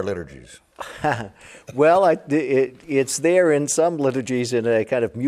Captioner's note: laughing